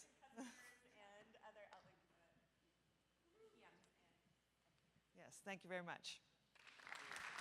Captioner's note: applause